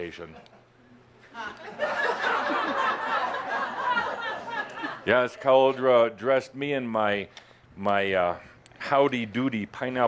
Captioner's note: laughter as rolls his eyes sarcastically